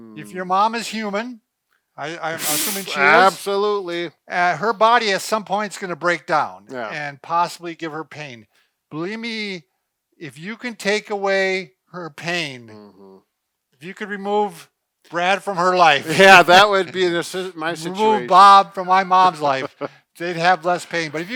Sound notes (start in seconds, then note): 16.0 laughs; 19.2 laughs